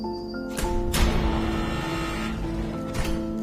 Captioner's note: door buzzes and unlocks